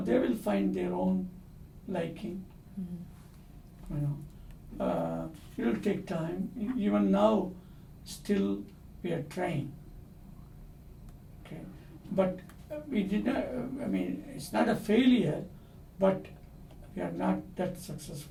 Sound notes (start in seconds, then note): none